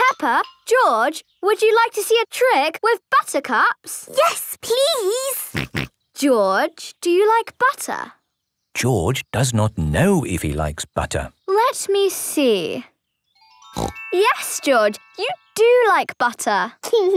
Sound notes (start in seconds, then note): 5.5 snorting; 13.7 snorting